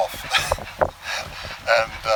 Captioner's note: chuckle